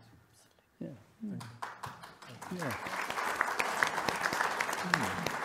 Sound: audience applauding

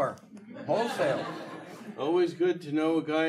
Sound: audience laughing

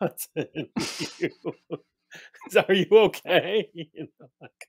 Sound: laughs some more

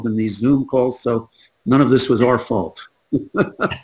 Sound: chuckles

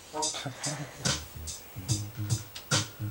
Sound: chuckles

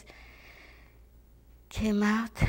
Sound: deep breath

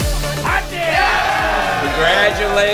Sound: cheers

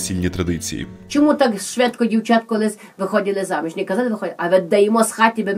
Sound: very thick Hutsul accent

